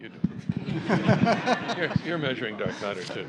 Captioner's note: laughter